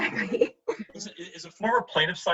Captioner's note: laughs